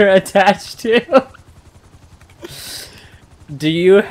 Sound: laughs

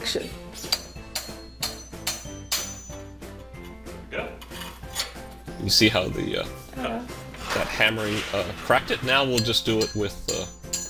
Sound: hammer banging sound

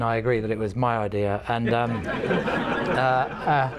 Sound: laughter

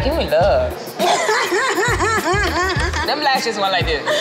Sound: laughs

